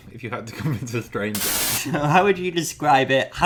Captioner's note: static